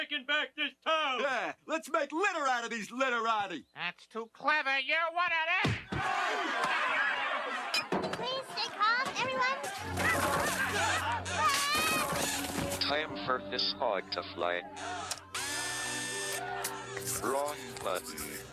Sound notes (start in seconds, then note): 5.8 crowd shouting; 10.9 shouting; 13.2 electronic Voice